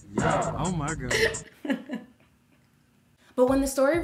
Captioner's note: laughing